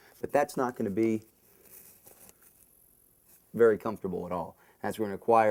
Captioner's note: pause